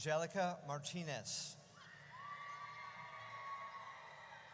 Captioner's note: audience cheers